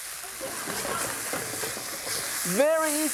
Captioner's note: audience laughs